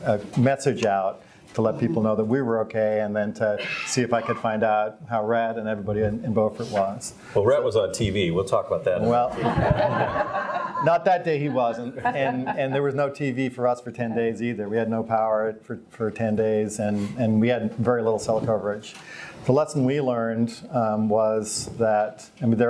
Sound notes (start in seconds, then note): 9.2 all laugh